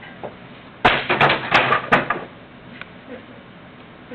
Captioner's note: computer thudding